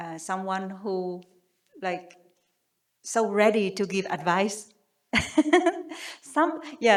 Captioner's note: chuckles